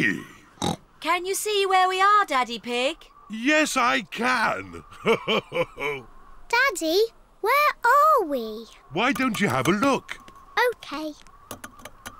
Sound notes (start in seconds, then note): 0.6 oinks; 4.8 chuckles